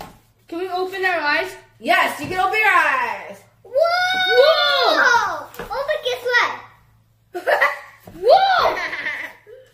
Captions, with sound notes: Can we open our eyes? Yes! You can open your eyes! WOOOOOOAAAAHHHHHHHH!!!!!!!!!!!!!!!!!!!! Brother, guess what??? (giggles) WOAH!